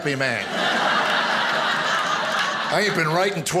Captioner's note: audience laughing